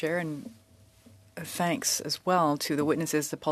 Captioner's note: speaking French